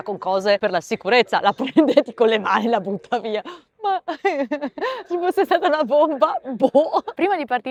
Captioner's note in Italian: risate